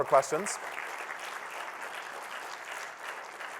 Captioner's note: applause